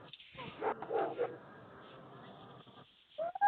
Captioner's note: dog barking